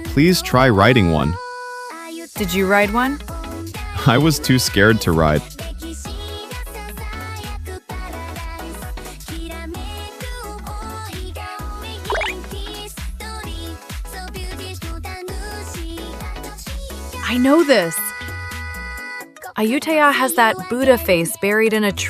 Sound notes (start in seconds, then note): 7.6 laughs